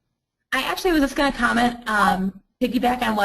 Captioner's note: voiceover